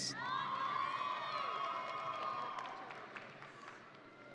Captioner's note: audience cheering